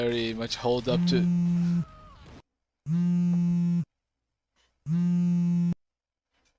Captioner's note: cellphone starts to ring